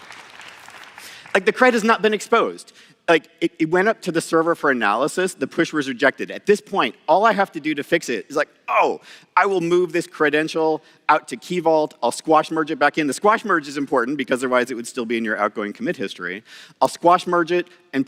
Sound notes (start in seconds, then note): 2.8 applause